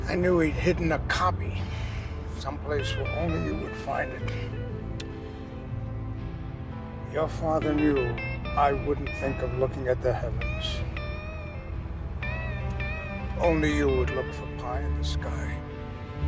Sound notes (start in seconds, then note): none